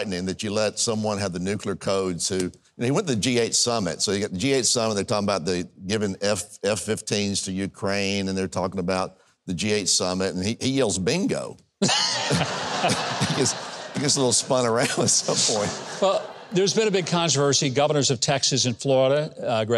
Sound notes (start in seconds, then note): 11.8 host and audience laugh